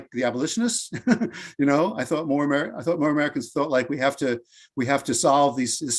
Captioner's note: laughs